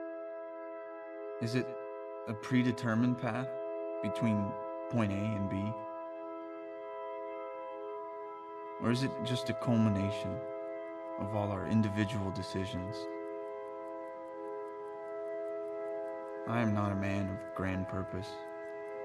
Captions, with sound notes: Is it a predetermined path between point A and B? Or is it just a culmination of all our individual decisions. (clock ticking) I am not a man with grand purpose.